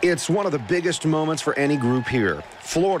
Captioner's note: applause